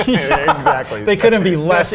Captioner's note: Rich laughs